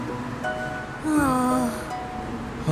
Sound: sighs

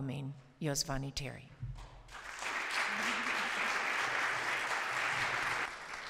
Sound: applause

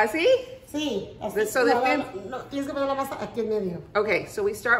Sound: Spanish

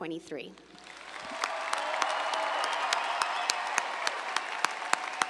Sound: audience cheering

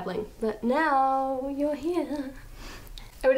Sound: sing-song

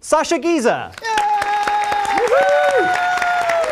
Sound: applause

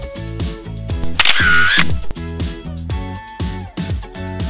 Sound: camera snap

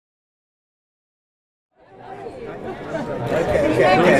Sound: indistinct chatter

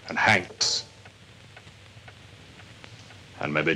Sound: none

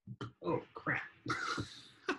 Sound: laughs

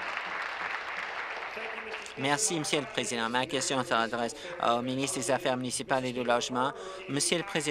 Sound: applause

